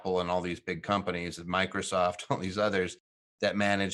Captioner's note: chuckling